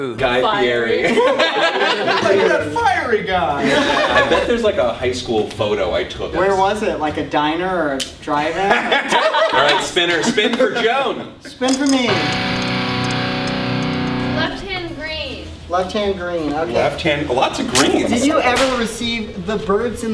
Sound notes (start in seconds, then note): 1.0 all laugh; 3.6 all laugh; 8.6 all laugh; 12.0 electric guitar